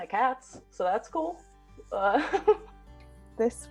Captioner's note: upbeat music; laughs